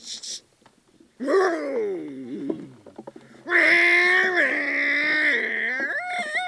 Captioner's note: driving Noises